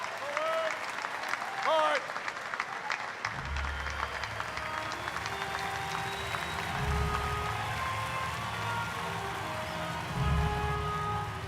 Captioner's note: applause